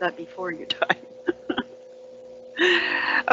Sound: chuckles

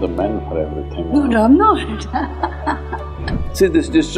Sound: laughter

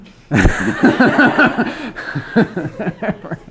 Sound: laughs

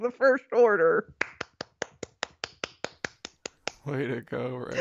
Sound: clapping

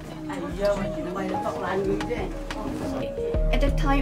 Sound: solemn music; speaking foreign language

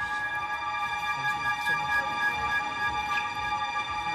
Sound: indistinct chattering

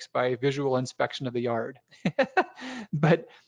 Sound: laughs

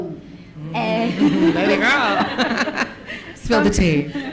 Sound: everyone laughing

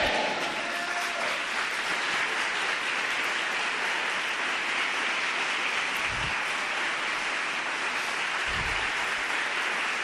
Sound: clapping fervently

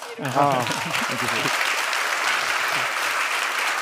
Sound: audience applauds

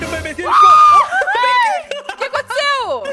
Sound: scream

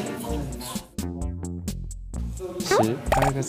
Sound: solemnly

